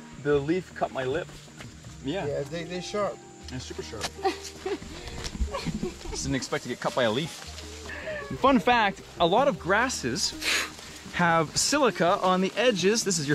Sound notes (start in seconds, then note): 4.1 laughs